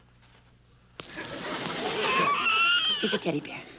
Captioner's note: Stanley cries